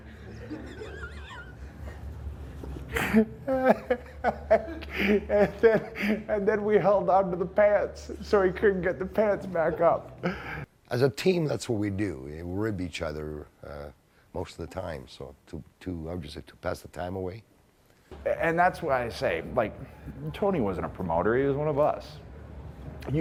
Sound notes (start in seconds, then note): 0.1 interviewer laughs; 2.9 Edge laughs